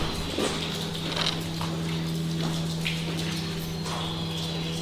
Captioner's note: water dripping; footsteps crunching